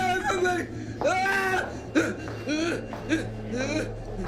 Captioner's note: Roy screaming